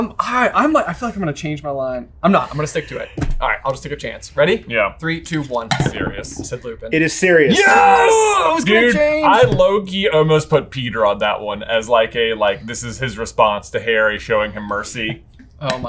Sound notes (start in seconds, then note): 7.9 groans